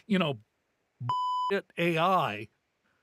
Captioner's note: beep